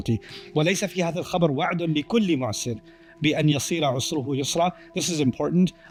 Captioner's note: Arabic